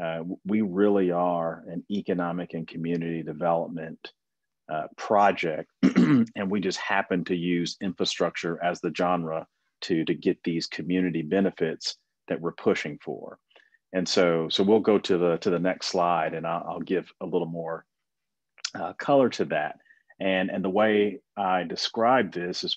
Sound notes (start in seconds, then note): 5.8 clears throat